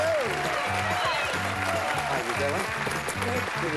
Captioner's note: cheering